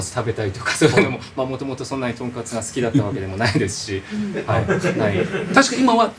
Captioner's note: laughs